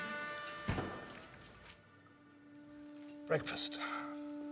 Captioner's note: door bangs open